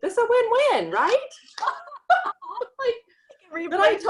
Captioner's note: both laughing